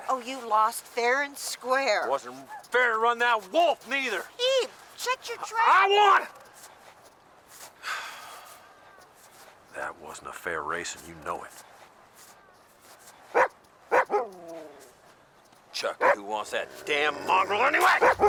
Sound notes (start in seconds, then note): 7.8 sighs; 13.9 Buck barking